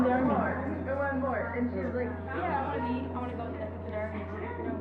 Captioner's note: all chattering